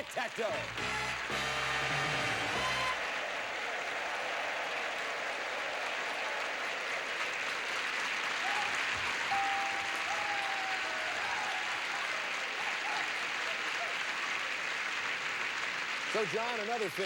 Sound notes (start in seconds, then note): 1.5 audience applauding